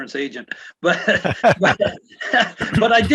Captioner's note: laugh